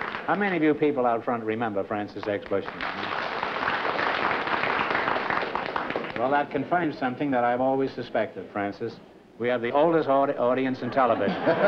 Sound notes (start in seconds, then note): 2.1 applause; 10.8 laughter